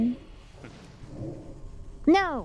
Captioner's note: chuckles